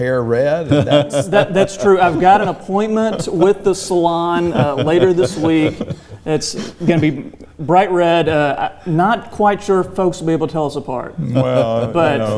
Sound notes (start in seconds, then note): 0.6 laughs; 0.6 laughing